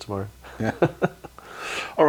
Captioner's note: laughter